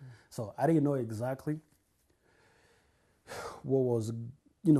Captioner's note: sighs